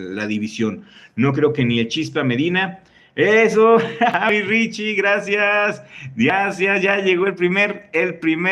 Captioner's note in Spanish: risas